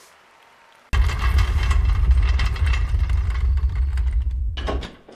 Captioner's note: drawer rolling